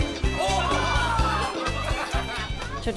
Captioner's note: laughs